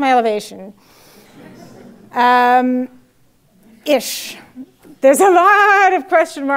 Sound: laugh

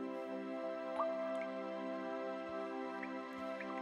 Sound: water drips; lush instrumental music

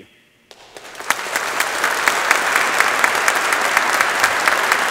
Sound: audience applauding

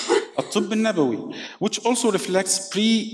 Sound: speaking in foreign language

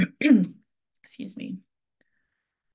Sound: clears throat

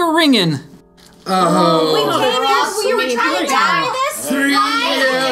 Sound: everyone arguing

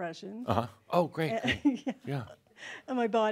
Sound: she chuckles

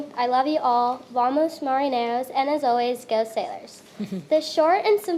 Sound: speaks Spanish

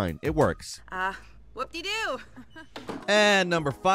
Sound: laughs

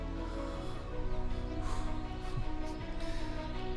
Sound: exhales

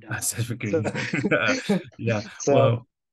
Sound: chuckles

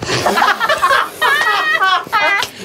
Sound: everyone laughs

